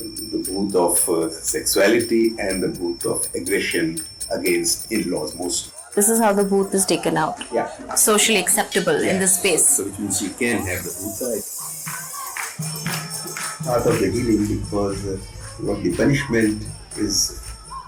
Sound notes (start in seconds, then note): 10.0 indistinct conversation; 10.0 iron chains clanking